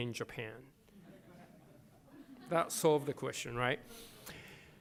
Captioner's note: laughter